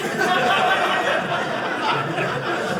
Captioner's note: audience laughing